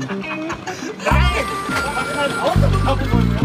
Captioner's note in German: Sie lachen